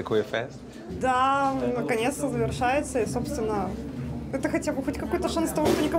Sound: speaking in foreign language

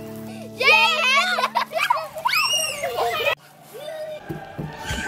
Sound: screaming and laughing; choir music; screaming and laughing

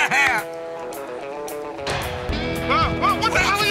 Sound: gate clangs open

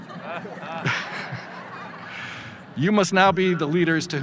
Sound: laughs

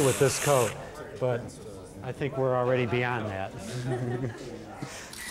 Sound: happy laughter

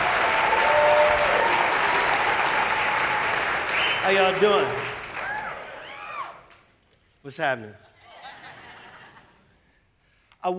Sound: applause

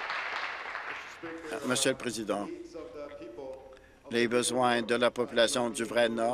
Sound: applause

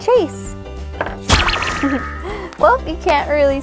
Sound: magical zap

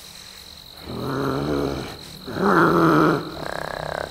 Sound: Bigfoot growls

